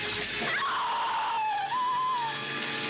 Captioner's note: screaming